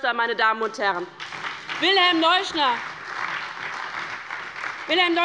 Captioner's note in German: Beifall bei der LINKEN und der SPD